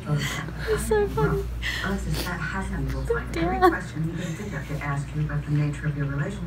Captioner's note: TV plays in the background; laughs